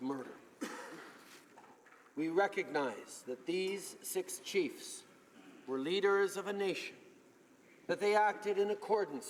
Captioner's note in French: voix de l'interprte